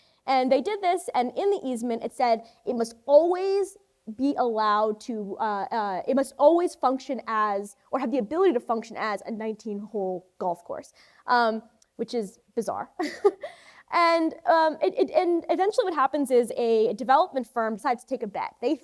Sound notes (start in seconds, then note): 13.0 chuckles